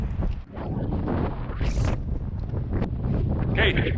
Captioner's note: wind blowing